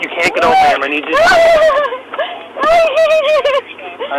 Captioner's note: crying